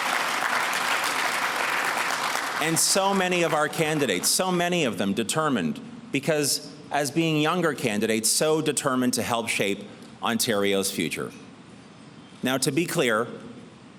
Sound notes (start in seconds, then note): 0.0 applause